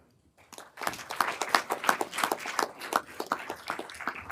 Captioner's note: everyone applauding